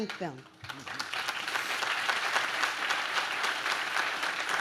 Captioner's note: audience claps